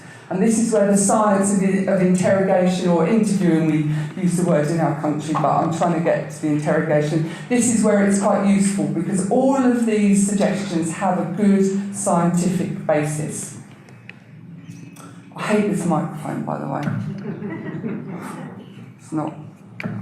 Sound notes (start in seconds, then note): 17.1 audience laughter